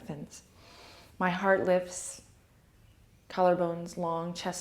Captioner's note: inhale